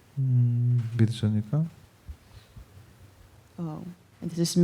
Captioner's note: speaking korean